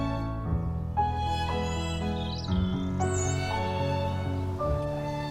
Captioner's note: gentle music; birds chirping